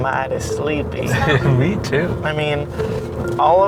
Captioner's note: chuckling